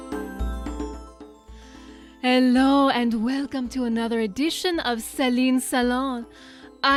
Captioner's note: vaguely French accent